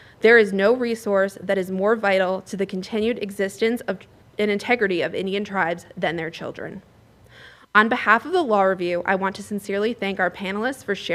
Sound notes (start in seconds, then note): none